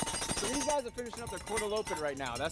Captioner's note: bell jangling